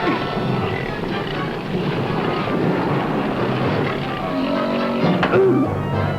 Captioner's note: roaring; grunt